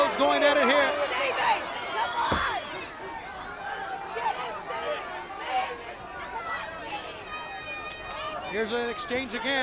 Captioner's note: crowd chatter